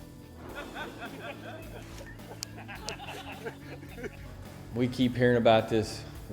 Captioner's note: laughing